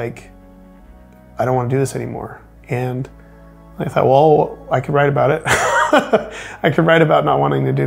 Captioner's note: laughs